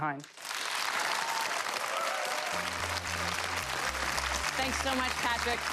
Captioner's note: audience applause